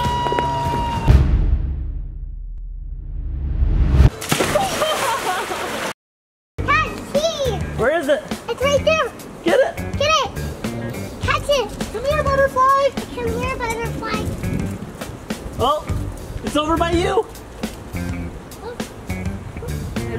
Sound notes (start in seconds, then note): 0.1 high-pitched recorder sound; 1.6 music cresendos; 3.7 whooshing noise; 4.0 water splashes; 4.5 laughs